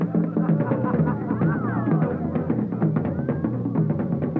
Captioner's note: crowd laughs